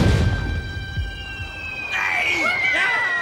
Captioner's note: binomes shouting